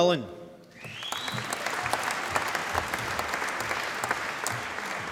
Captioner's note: applause